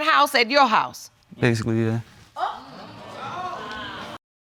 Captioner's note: audience murmurs